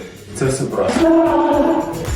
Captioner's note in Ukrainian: скрегіт